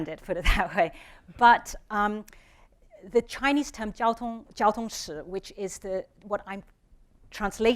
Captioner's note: speaking chinese